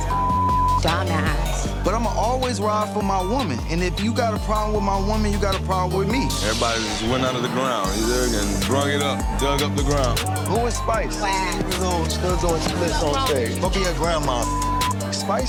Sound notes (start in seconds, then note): 0.0 beep; 12.4 faintly speaking; 14.9 beep